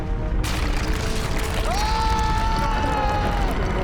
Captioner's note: gunshot; male scream